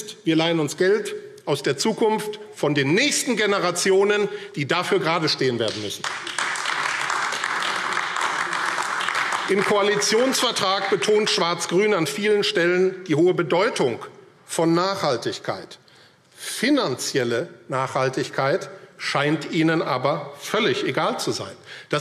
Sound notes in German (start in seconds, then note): 5.6 Beifall AfD